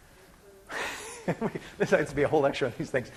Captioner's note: laughs